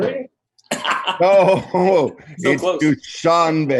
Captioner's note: laughter